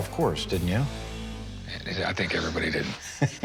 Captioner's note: chuckling